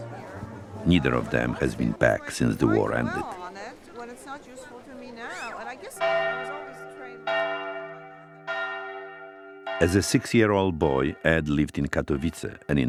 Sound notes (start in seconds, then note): 5.9 tower bells ringing